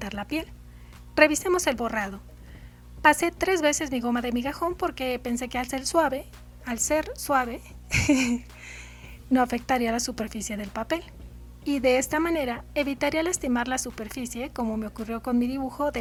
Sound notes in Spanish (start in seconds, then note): 7.9 risa